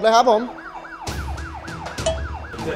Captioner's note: siren wailing